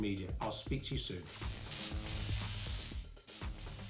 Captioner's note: electric Buzz